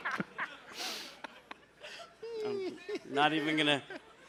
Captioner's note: laughter